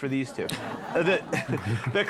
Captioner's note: audience Laughing